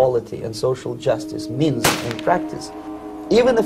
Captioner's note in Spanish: disparos de armas y el hombre llora